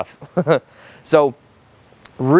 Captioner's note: chuckles